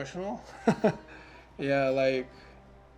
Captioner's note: chuckles